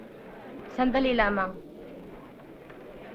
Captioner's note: non-english speech